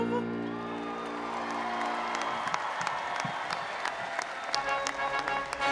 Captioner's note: audience applauding and cheering